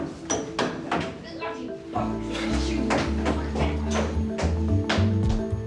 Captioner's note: upbeat music; Shona muttering; upbeat music